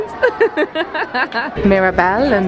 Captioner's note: laughs